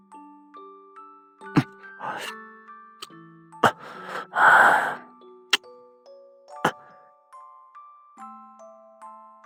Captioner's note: kiss